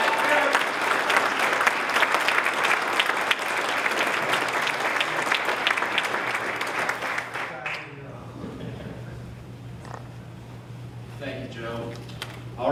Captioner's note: applause